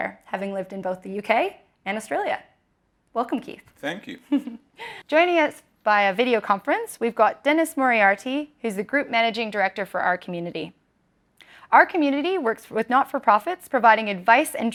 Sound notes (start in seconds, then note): 3.8 laughs